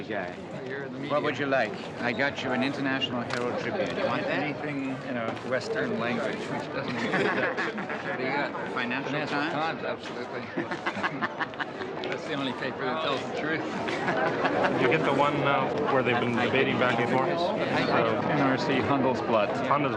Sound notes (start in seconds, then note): 6.9 man chuckling; 10.6 man chuckling